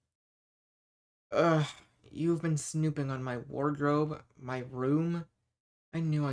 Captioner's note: groan